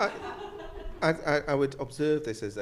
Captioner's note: audience laughs